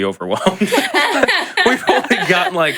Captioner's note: laughs